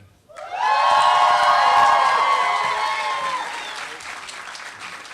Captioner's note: applause